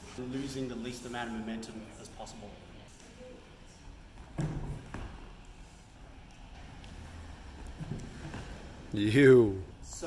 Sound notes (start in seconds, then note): 4.3 gentle thud